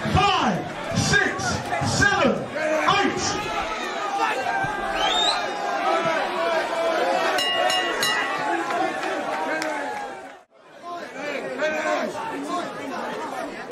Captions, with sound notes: Five! Six! Seven! Eight! (bell ringing) (clapping) - Oi! Oi, oi fuck off!